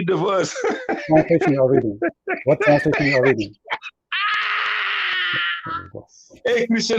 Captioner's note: Ketawa